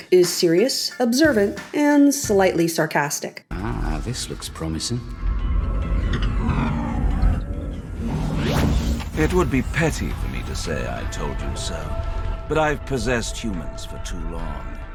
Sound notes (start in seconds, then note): 5.0 mechanical whirring; 7.9 digitized swoosh